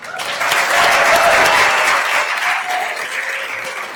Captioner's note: attendees applauding